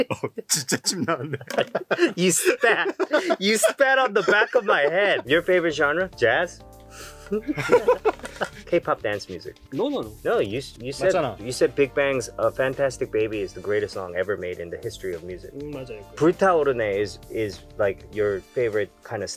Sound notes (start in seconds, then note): 0.1 speaking in Korean; 7.2 laughs; 9.8 speaking in Korean; 15.7 speaking in Korean